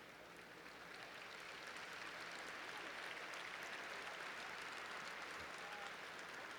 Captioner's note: applause